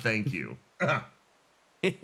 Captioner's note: cough